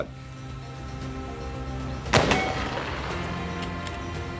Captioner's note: gunshot